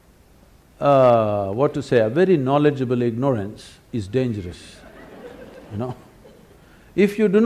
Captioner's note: laughter; 笑聲